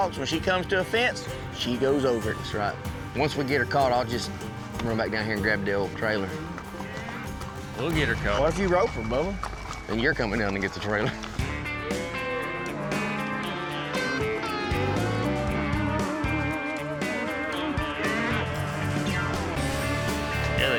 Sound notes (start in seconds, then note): 12.6 cattle moo